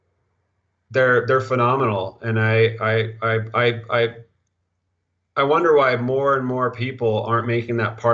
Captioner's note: stuttering